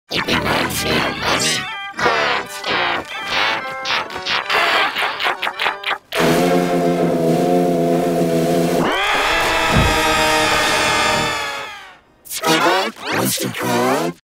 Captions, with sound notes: It reminds me of money Monster [laughing] [buzzing] [screaming] Squidward? Mr. Krabs?